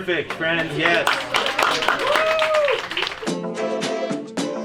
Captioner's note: applause